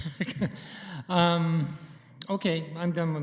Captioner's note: chuckling